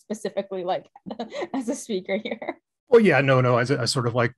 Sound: laughs

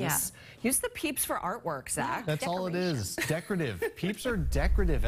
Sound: laughter

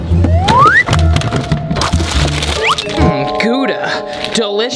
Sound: whistle

